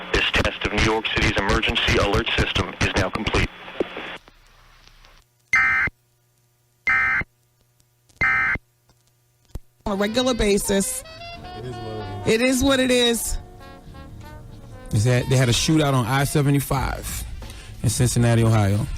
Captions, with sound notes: This test of New York City's emergency alert system is now complete. [BEEPING] On a regular basis. It is what it is. It is what it is. Is that they had a shootout on I-75 in Cincinnati, Ohio.